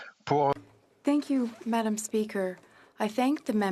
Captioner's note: speaking FRENCH